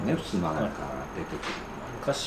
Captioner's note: sliding doors